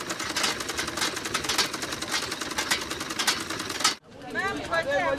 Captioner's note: sewing machines humming; urban life hustling